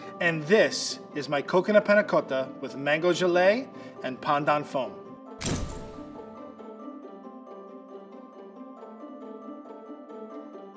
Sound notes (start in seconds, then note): 5.4 camera clicking; 5.5 upbeat music